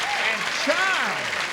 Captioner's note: applause